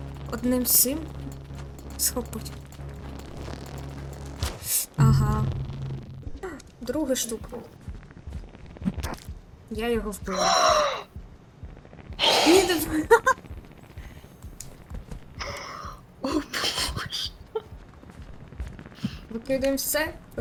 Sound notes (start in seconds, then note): 8.7 smack